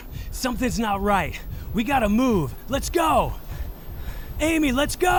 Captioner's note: Elvis panting